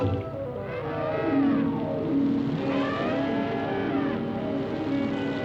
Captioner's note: elephant trumpets